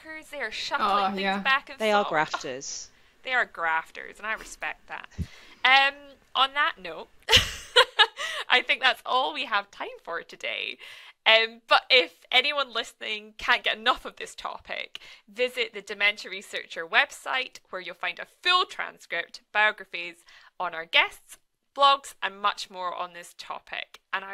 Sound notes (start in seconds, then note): 7.7 laughs